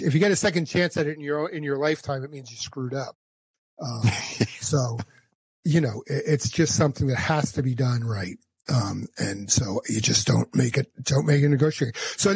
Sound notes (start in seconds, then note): 3.8 laughs